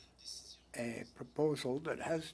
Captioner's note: speaking French